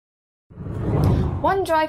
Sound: screen whooshing

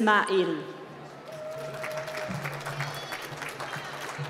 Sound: applause

